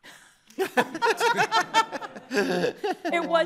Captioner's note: everyone laughing